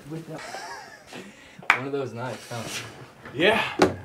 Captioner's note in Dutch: Drew lacht